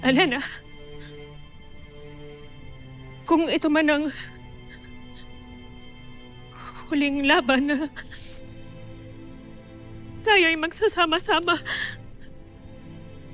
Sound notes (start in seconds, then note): 6.5 sobs; 11.1 sobs